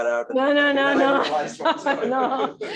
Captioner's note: laughter